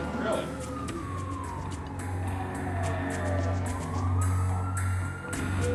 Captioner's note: police siren wales